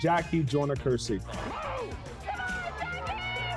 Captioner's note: crowd cheering